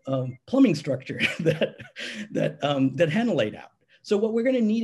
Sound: chuckling

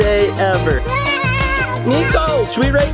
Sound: yelling

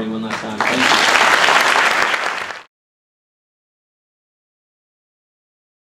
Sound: applause

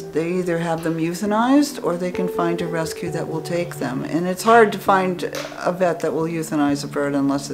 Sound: none

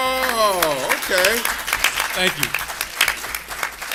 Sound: applause

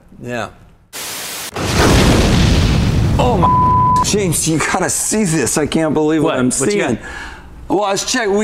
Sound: static sound and MIND BLOWN!

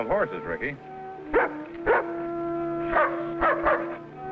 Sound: dog barks

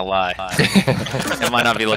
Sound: all laughing

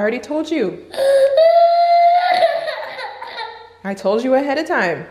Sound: cries

